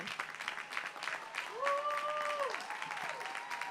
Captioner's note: applause